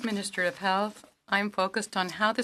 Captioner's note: speaking French